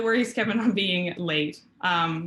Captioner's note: laughter